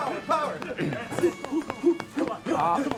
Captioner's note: clearing throat